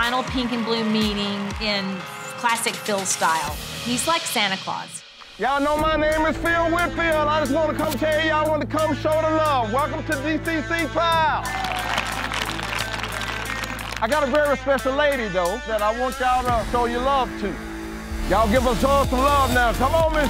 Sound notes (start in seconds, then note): 11.2 cheering; 17.1 dramatic music